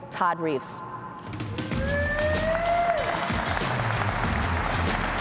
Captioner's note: applause